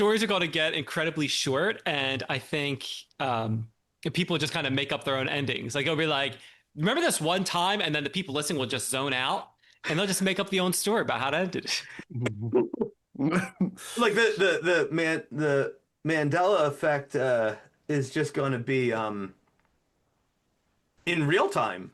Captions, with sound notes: Stories are gonna get incredibly short. And I think people just kind of make up their own endings. They're gonna be like, remember this one time and then the people listening will just zone out and they'll just make up the own story about how to do this. (Laughs) Like the Mandela effect is just gonna be in real time.